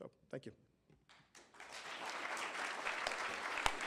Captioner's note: applause